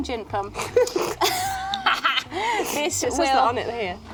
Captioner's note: laughing